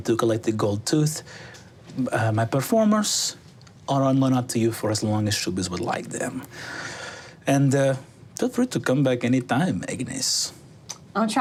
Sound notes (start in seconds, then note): none